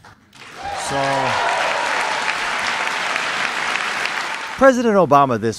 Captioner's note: applause, cheering